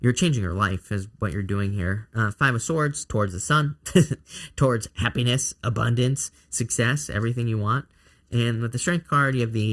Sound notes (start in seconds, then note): 3.8 chuckling